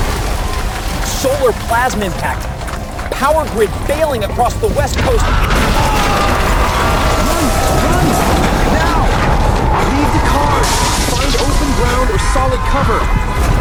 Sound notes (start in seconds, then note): 5.4 people crying, and cars crash